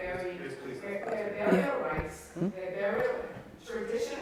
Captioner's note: overlapping chatter